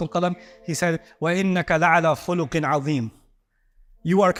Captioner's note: Arabic